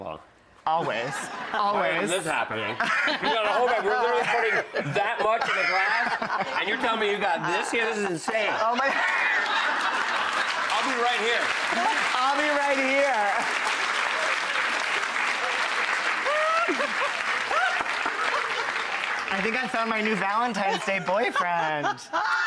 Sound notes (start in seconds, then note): 1.2 audience laughing; 9.0 audience laughing and clapping; 14.7 audience clapping